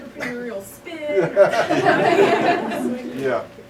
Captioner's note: laughter